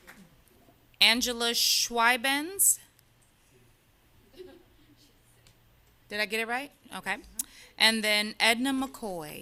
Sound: applause

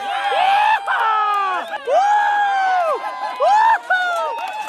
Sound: loud cheers and claps; applause from the spectators

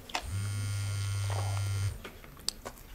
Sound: phone vibrates

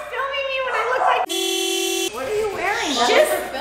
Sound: car horn honks loudly

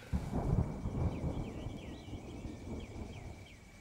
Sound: thundering

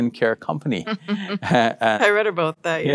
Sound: laughs

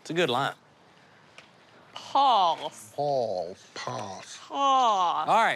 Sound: trying out "pass" with an English accent

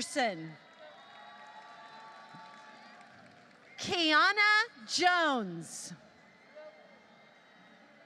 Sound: applause

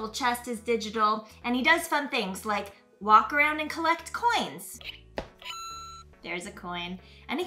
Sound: coin chime

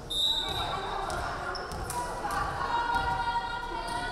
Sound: referee whistling

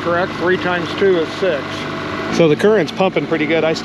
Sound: boat engine running

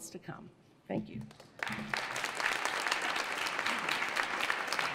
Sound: audience applauds

